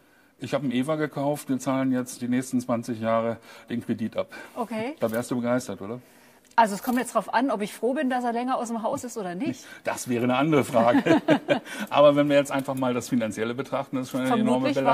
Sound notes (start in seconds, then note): 11.4 chuckle